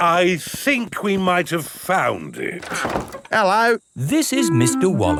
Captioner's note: none